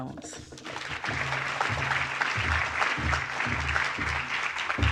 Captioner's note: audience applauding